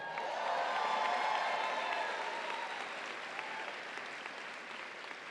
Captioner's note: audience applauds and cheers